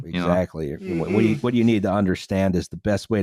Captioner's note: yawning